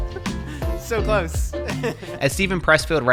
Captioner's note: laughs